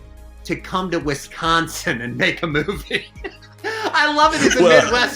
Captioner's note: laughs